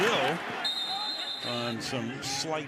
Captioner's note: whistle blows